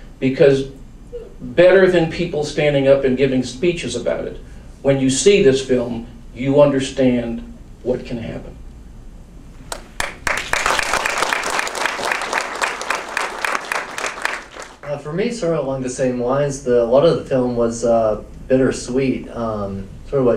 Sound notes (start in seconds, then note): 9.7 audience applauds